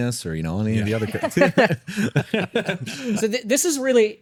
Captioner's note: laughing